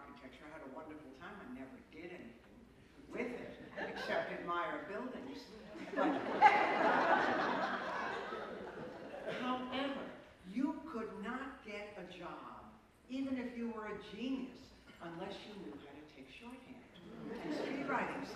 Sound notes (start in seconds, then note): 5.7 laughter